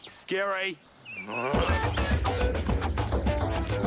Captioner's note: groans; energetic funky music